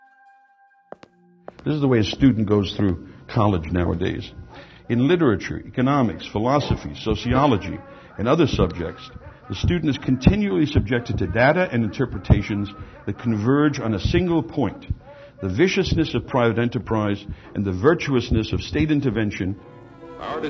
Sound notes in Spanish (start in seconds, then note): 1.4 zapatos haciendo clic; 7.0 conferenciante hablando débilmente